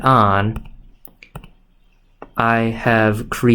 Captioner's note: keypad Clicks